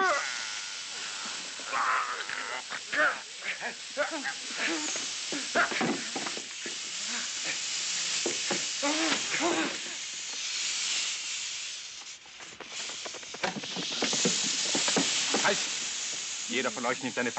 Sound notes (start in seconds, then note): 3.7 Gary groaning